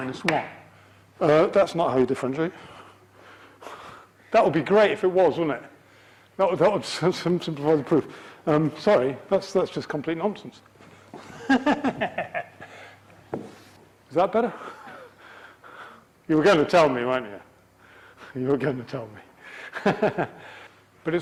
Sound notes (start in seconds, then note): 11.2 deranged laugh